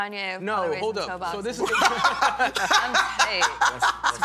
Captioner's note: laughter